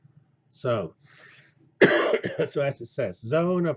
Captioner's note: cough